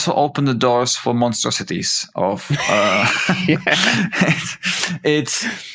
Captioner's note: laughter